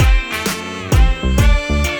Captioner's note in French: Humm